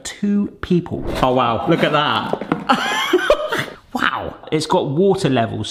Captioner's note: chuckles